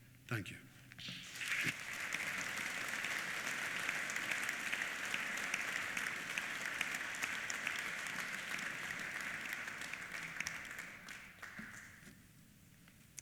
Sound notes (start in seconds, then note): 1.6 applause